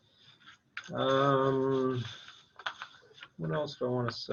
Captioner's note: papers rustling